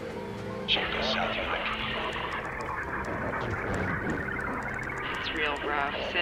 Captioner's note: garbled transmission